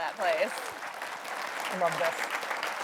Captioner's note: audience applauds